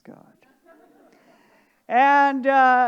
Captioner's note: audience laughing